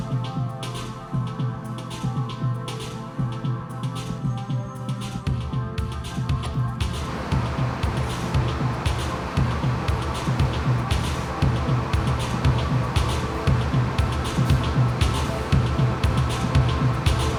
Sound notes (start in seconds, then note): 2.5 ominous music continues; 7.9 bus engine whirring